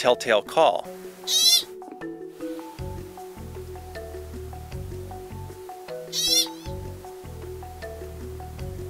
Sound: pika callling

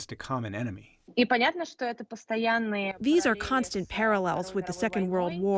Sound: through translator

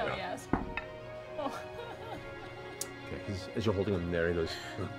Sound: laughing

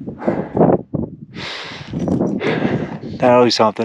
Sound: breathes deeply

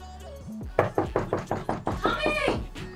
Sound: heavy knocking

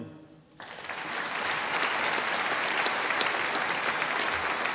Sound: audience applauding

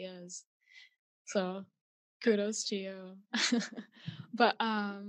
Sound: chuckles

